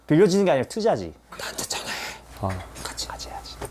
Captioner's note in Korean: 속닥속닥